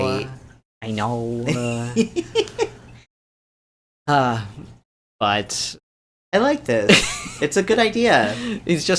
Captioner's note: sighs